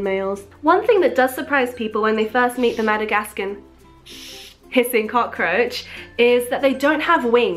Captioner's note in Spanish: Hiss